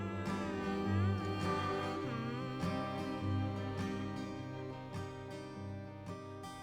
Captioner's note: melancholic guitar music; singer humming